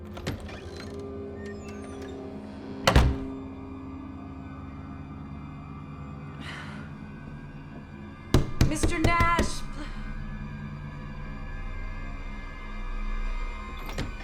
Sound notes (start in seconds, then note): 0.2 door latch clicks; 0.7 eerie music; 2.8 door slams; 4.6 eerie music; 8.3 door banging; 9.0 eerie music